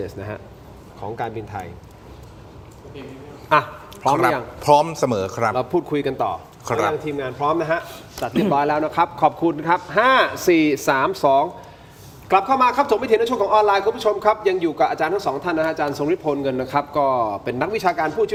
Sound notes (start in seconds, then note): 8.2 clears throat